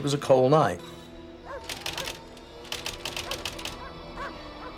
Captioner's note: dogs barking